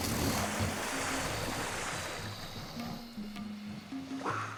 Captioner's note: hissing